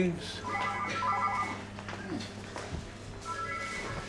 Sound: phone rings

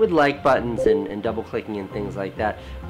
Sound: notification bell chimes

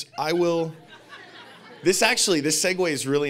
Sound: audience laughing

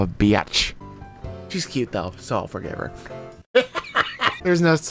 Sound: laughs

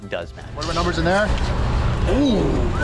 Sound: rumbling and crackling fire

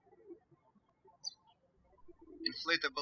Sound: birds chirping

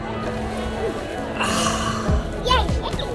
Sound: sighing

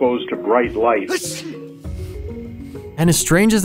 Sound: sneezing

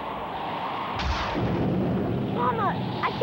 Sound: wind howling; thunder clapping

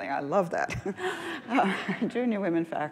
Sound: laughs

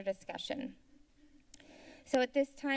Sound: clicks Tongue

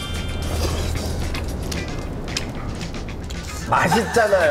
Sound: chewing and thinking

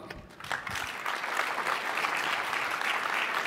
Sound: applause

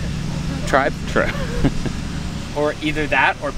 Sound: laughing

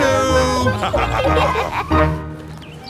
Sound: laughter

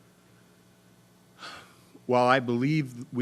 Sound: sighing

